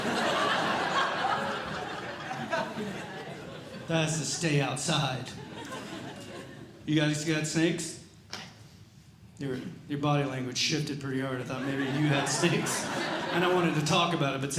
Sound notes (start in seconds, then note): 0.0 audience Laughing